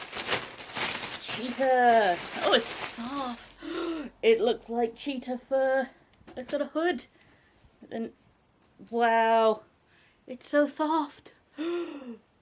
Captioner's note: gasp